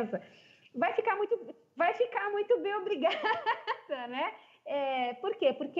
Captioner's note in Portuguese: risos